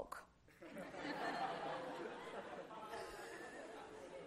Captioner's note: laughter